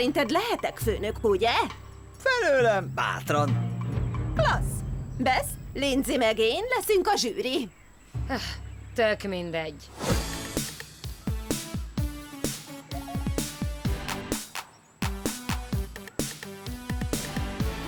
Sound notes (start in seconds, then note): 8.2 sighs; 11.0 dance music plays